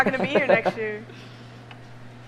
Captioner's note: laughs